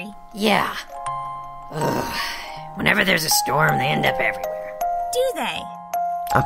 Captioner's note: sigh